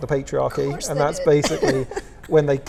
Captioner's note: laughs